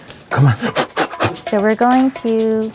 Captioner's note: blows